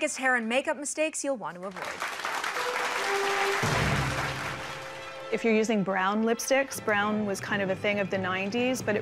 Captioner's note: applause